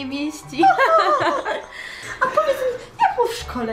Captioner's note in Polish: śmiech